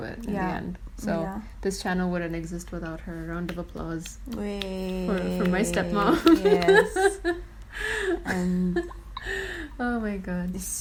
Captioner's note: clapping